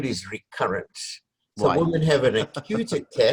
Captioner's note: laugh